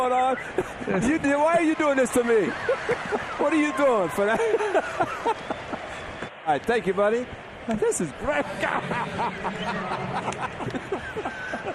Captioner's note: laughter